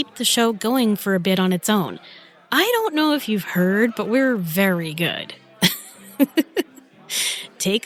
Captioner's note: laughs